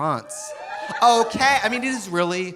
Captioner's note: audience cheering